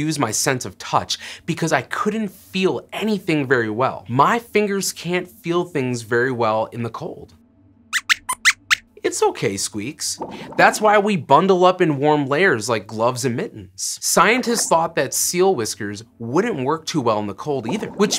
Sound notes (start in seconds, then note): 8.0 squeaks squeaks